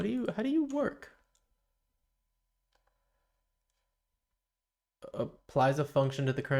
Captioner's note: silence